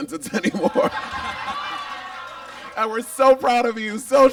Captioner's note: audience laughs